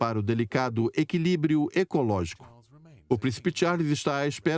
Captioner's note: voiceover